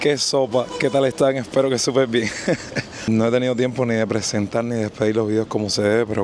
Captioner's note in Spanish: risas